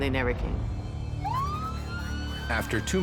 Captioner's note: sirens